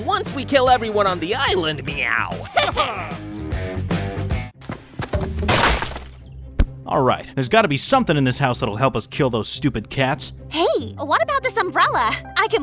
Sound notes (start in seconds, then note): 2.5 upbeat rock music continues; 5.4 brick wall thudding